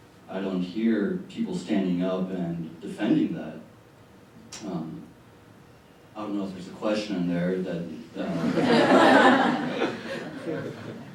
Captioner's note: laughter